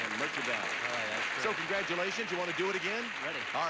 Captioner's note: audience applauding